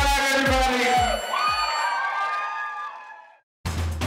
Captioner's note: applause and screaming